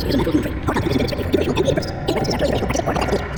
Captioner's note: voice is speeding up and getting higher pitched